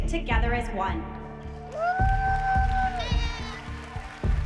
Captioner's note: cheers and applause